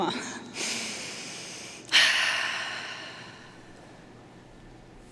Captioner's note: inhaling and exhaling